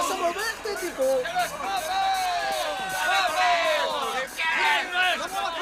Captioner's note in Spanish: gritan